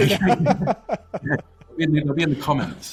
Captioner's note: both laughing